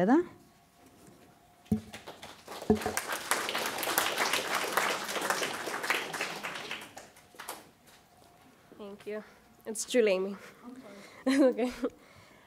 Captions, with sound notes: (audience applauding) - Thank you, it's Juleime.